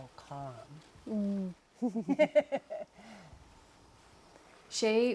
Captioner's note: laughter